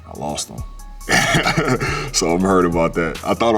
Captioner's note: chuckles